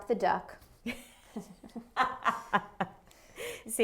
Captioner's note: laughter